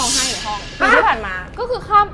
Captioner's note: crying in the room